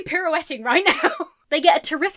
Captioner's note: laughs